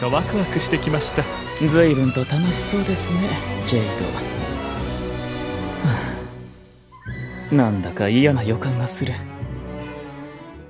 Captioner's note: sigh